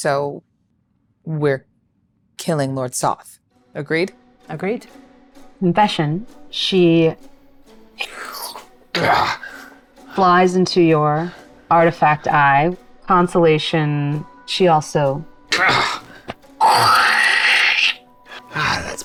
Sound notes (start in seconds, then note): 8.3 blows air; 8.9 grunts; 18.3 grunting; 18.8 blowing air